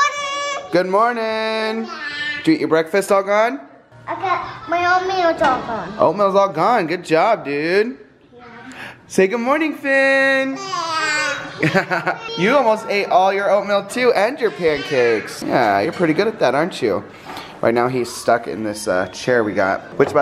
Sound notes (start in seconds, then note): 10.6 babbles; 11.6 man laughs; 14.5 babbles